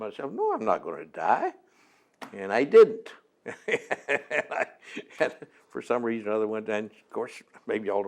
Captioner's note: laughs